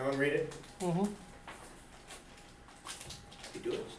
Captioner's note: voiceover